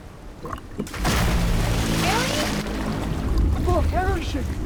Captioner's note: water splashing